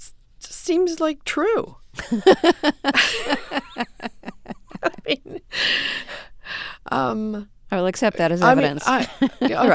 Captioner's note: soundbite of laughter